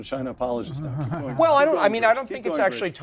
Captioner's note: laugh